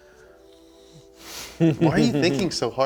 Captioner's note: laughs